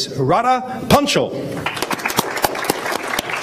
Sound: applause

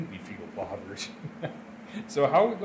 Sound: laughs

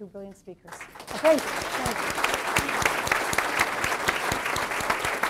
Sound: audience applauds

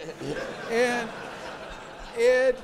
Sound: audience laughs

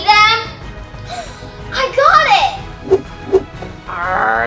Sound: gasps

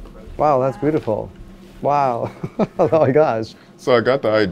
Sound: giggling

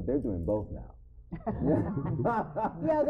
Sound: laughing

